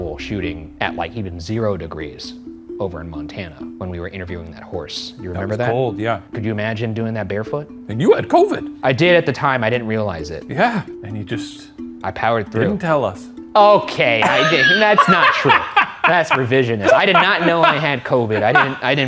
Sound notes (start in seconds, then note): 14.2 laughs